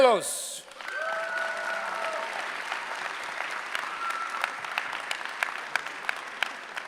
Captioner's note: applause